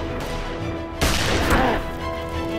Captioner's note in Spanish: Disparos